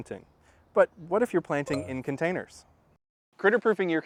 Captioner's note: ding